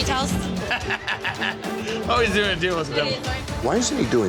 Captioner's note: laughs